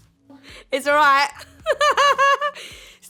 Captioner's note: laughs